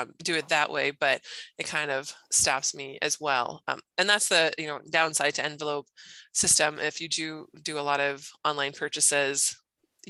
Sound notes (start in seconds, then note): none